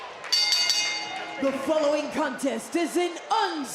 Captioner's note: bell rings